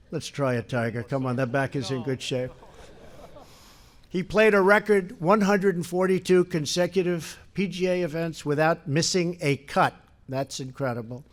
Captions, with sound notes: Let’s try it, Tiger. Come on, that back is in good shape. (laughter) He played a record 142 consecutive PGA events without missing a cut. That’s incredible.